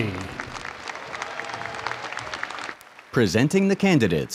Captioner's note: audience cheers and applauds